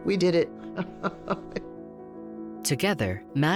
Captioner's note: laughs